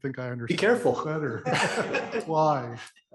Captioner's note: laugh